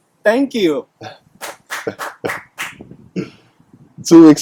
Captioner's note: claps his hands